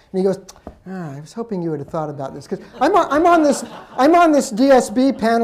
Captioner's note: laughter